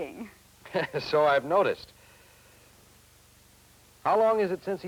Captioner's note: laughs